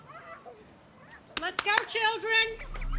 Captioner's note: Sister Jean clapping; soothing music